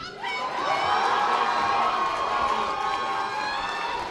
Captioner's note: audience applause